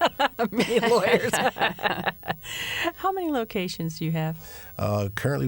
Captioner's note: laughter